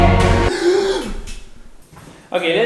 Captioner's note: gaaaaaaaaaaaaaaaaasp !!!!!